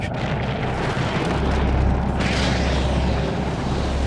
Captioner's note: rumbling loudly, hissing